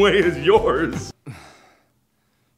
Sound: annoyed and relieved groan

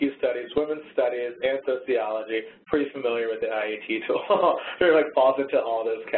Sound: laughs

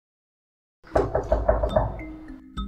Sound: knock

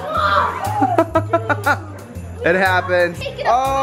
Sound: laughing

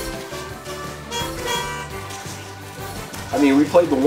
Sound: cars honking

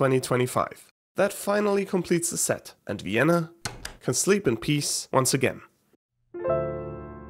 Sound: light switch click; relaxing piano music

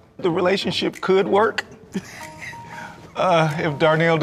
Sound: laughing

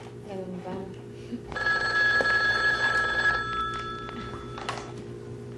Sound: phone ringing

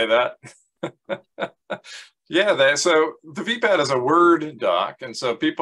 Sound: laughs

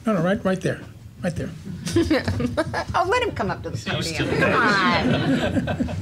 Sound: laugh

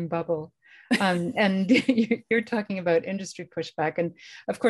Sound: laughter; laughter

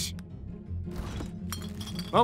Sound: glass rustling

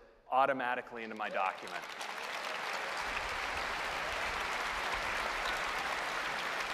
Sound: applause

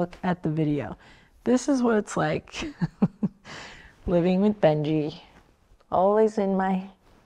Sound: chuckles

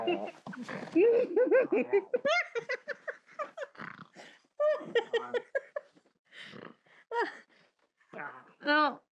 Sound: he snarls and grunts, she laughs; noises and laughter continue

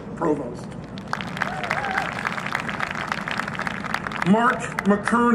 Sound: applause and cheering

